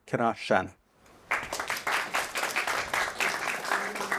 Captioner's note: audience clapping